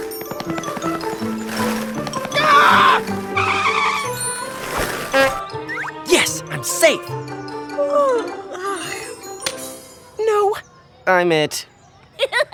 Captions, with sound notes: AAAGHH! YES! I'M SAFE! (YAWNS) NO! I'M IT. (LAUGHS)